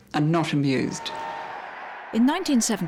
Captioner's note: crowd cheering